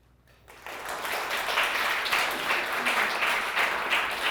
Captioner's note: audience applauding